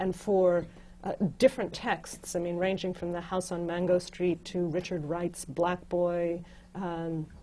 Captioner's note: none